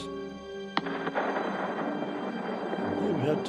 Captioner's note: explosion